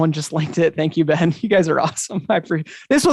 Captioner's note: chuckles